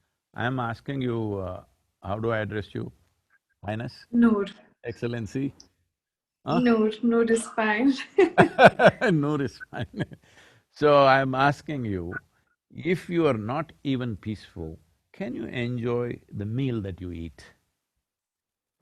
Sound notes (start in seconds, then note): 8.2 both laugh